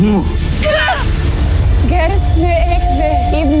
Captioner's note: grunts, powerful blast; evil energy whoosh & crackle; speaking in enchanta